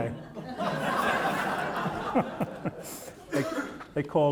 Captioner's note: audience laughing